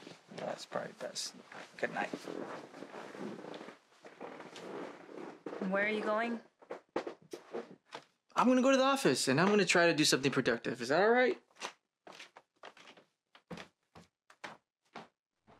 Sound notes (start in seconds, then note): 1.4 bed squeaking and rustling; 12.6 foot steps